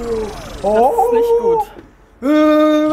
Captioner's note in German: freudig